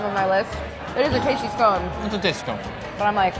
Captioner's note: bell dinging